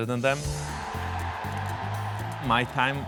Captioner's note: crowd cheering